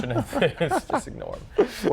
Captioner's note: laughs